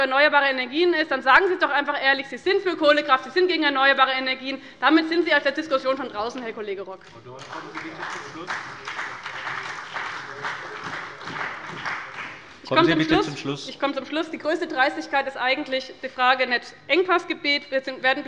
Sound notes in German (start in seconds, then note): 7.0 Beifall bei dem BÜNDNIS 90/DIE GRÜNEN und der CDU